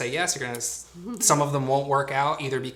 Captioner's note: laughs